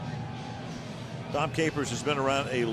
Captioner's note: cheering